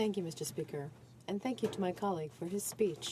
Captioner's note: speaking French